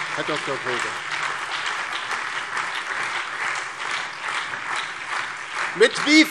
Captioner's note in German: Beifall DIE LINKE, BÜNDNIS 90/DIE GRÜNEN, SPD und Freie Demokraten